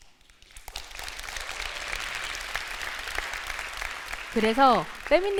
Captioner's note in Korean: 박수